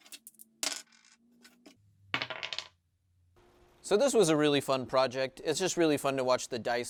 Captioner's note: dice rolling noise